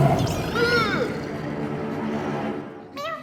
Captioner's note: growling; moaning